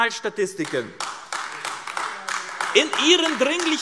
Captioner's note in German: Beifall AfD